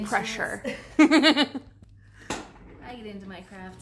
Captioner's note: laughs